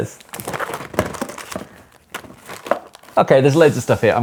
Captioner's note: contents rattling